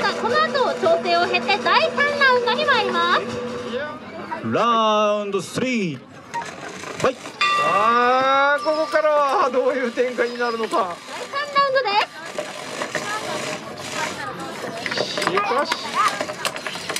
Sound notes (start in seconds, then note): 7.4 bell rings